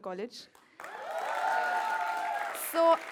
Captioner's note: crowd cheers